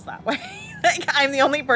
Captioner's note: laughs